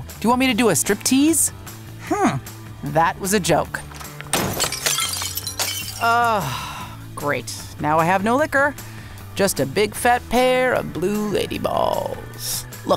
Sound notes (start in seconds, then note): 3.9 breaking glass